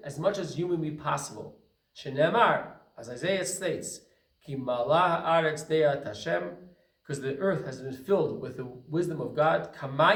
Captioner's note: Hebrew